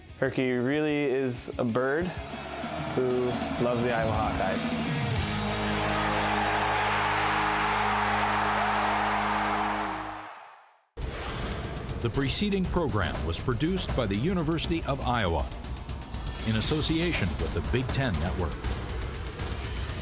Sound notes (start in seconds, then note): 7.0 crowd cheering